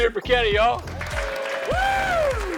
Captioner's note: crowd cheering